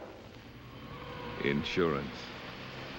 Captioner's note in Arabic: تعليق صوتي